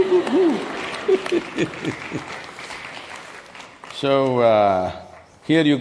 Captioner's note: laughs